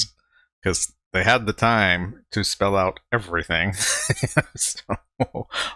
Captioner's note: chuckling